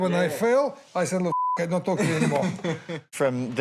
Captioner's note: beep